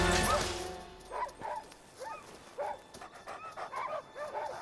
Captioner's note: dogs barking; Buck panting